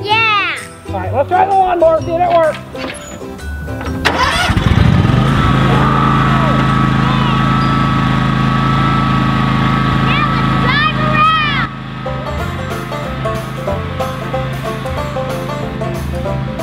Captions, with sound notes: - Yeah! - Alright, let's try the lawnmower and see if it works. (engine revving) - Now let's drive around! (upbeat banjo music)